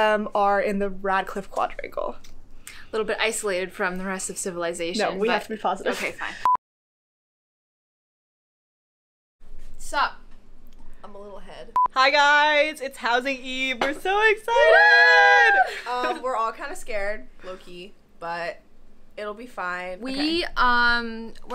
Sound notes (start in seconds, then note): 14.6 cheering